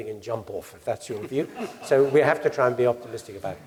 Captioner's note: laugh